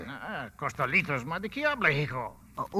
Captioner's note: speaking Spanish